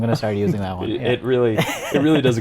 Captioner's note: laughs